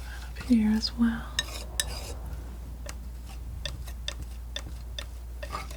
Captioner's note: tapping